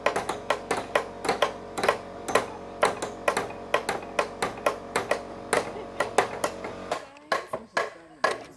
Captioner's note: hammering noise